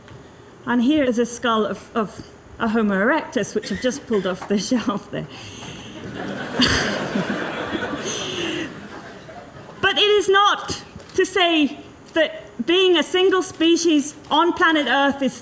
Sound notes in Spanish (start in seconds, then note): 5.9 risas